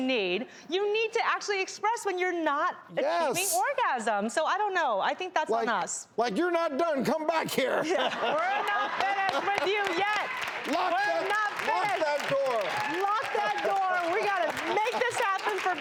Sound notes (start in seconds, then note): 7.7 laughter